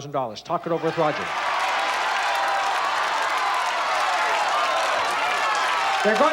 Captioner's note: cheering and shouting